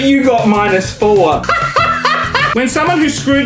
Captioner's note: laughs